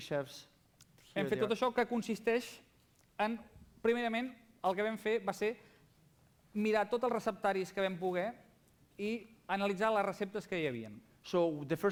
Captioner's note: non-english speech